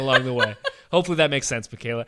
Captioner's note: laughs